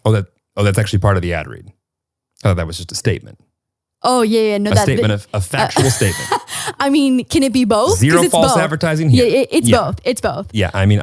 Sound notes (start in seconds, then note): 5.6 laughing